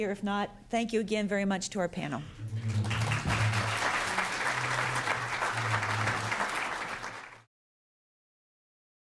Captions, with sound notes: If not, thank you again, very much to our panel. [APPLAUSE]